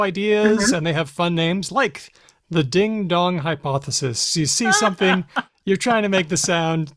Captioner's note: laughs